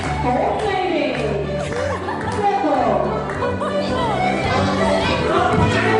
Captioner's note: upbeat music; laughing